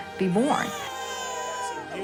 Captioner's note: baby crying